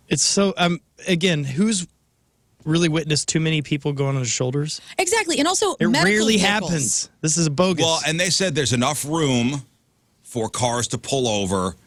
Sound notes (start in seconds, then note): none